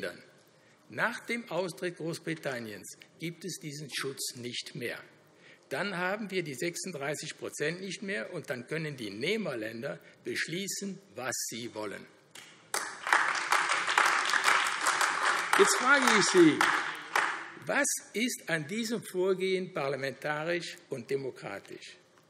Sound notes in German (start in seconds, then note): 12.6 Beifall AfD